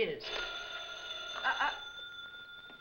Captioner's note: phone ringing